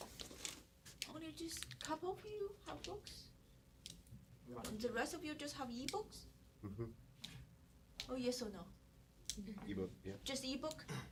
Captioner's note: mhh mhh